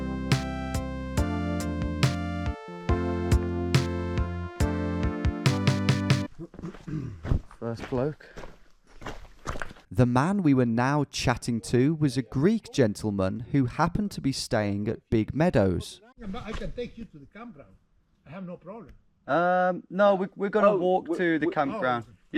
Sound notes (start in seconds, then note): 0.0 uplifting electronic music continues; 8.3 footsteps treading